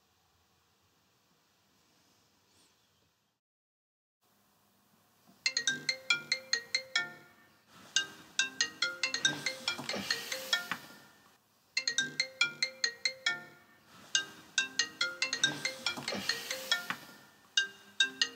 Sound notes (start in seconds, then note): 5.5 phone rings